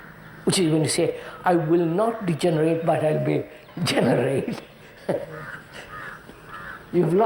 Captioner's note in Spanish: risas